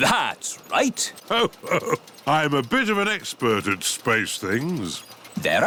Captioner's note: chuckles